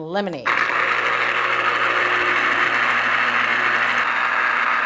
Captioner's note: juicer whirring